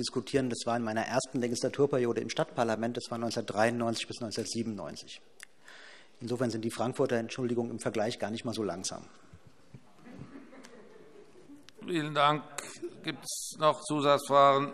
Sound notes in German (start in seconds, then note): 10.1 Vereinzelte Heiterkeit